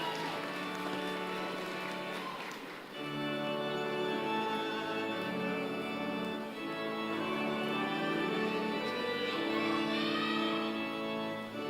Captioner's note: applause